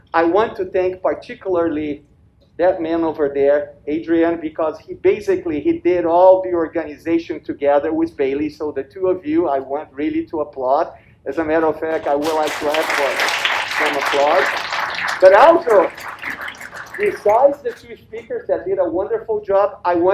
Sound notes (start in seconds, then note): 11.8 audience applauds